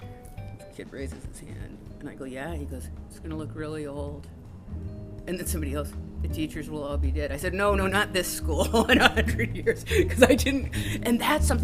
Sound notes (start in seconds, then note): 8.6 laughs